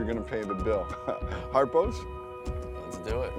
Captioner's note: laughs